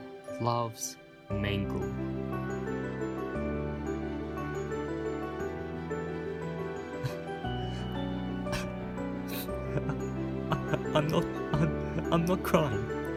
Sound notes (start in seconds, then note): 7.0 sad noise; 8.4 crying